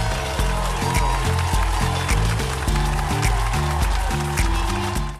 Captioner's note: upbeat music; audience cheering